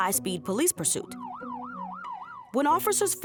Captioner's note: sirens blare